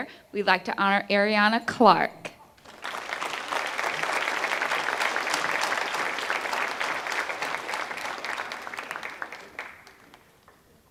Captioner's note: applause